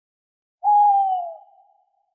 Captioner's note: OWL hoot